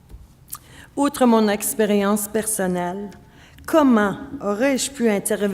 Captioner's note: speaking French